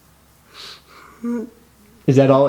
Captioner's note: laughing